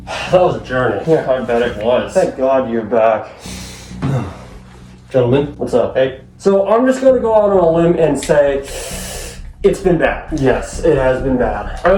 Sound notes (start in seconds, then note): 3.2 sighs; 8.7 inhales through teeth